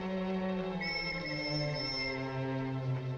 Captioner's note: police whistle blowing